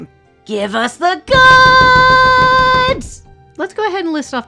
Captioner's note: table Slappies